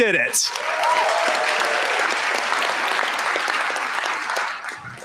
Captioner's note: applause